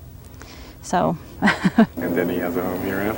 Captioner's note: chuckles